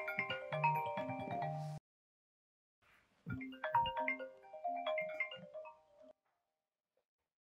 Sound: mobile phone ringing

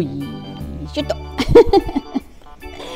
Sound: laughs

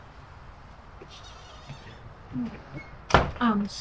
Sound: door squeaking

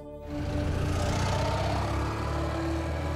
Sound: motorcycle engine

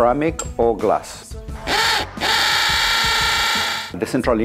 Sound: sound of drill into brick

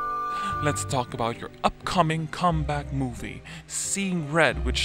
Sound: on TV

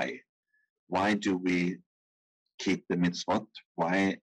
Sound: speaking in foreign language

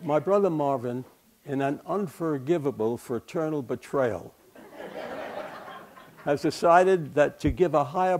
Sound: laughter

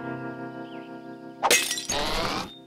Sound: glass clatters

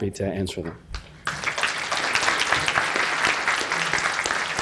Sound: applause

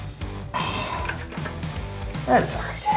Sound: exhaling

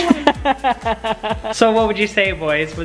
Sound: laughing

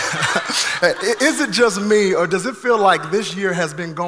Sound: laughs; congregation laughing

